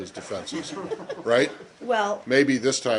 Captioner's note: laughter